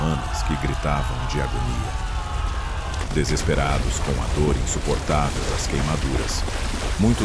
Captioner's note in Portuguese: grito